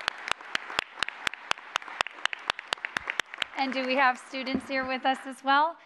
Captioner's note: applause